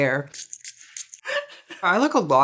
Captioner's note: laughing